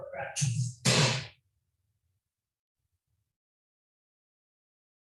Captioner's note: door slamming